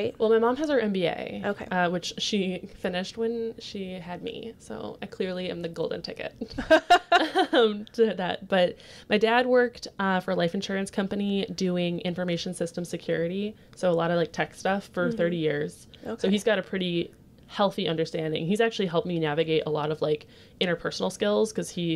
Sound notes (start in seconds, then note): 6.5 laughs